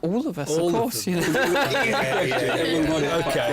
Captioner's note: chuckles